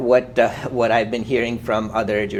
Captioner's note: laughs